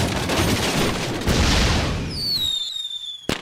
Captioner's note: whistles and pops